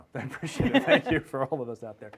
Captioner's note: laughing